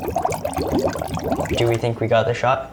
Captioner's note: bubbles rumble